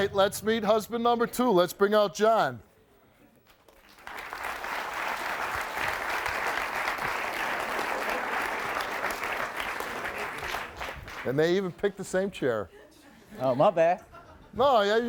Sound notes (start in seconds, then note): 3.4 audience clapping